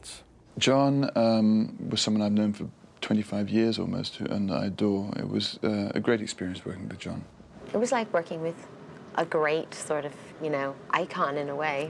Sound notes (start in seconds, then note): none